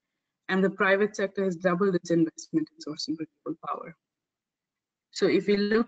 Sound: audio static

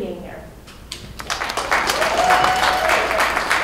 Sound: cheering

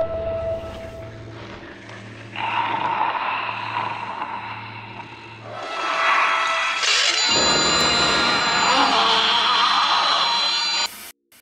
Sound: growling

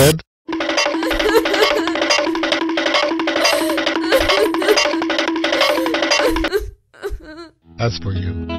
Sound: crying

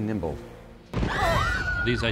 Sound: screaming

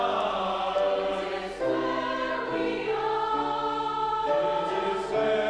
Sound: high voices

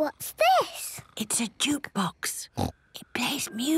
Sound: whispering

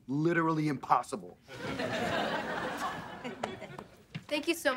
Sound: chuckles

